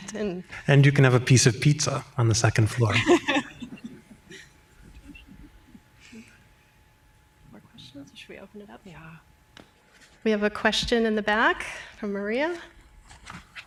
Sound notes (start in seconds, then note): 2.8 laughter; 7.5 indistinct chatter